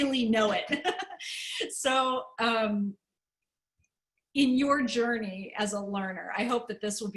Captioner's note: laughter